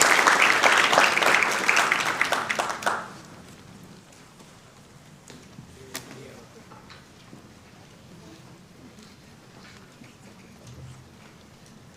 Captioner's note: applauding